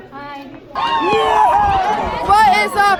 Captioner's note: fans cheering